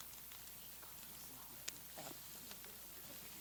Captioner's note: whispers